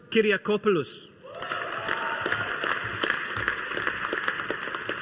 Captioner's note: audience applauding